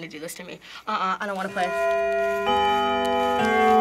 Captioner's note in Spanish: repique del reloj